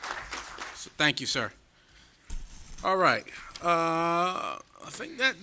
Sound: applause

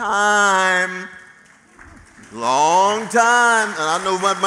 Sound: applause

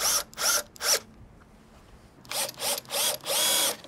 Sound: drill buzzing

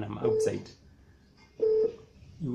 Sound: low frequency beeping sound continues

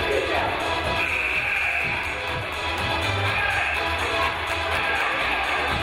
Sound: game buzzer buzzes

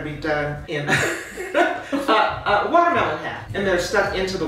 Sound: both laughing

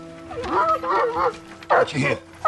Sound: dogs barking

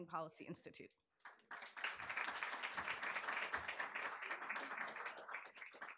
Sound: audience applauding

